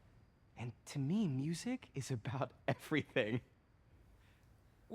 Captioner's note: laughs